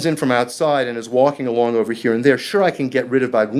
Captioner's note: speaking foreign language